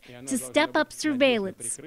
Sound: speaking Alternate Language

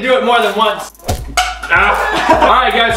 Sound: whoosh; laughter

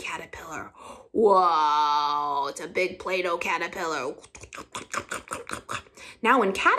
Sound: chomping

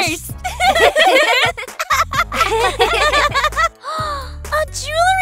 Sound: all laughing

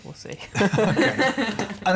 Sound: laughter

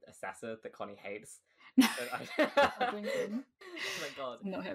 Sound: laughing

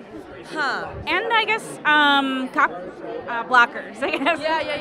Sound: laughing

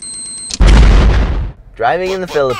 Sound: remote beeping; drone explodes

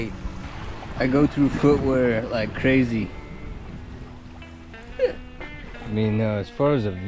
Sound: chuckles

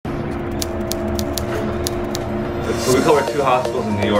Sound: elevator humming

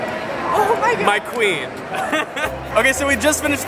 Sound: laughs

